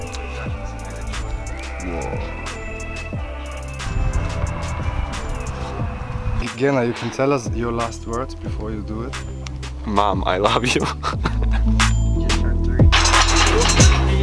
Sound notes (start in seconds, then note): 10.5 laughing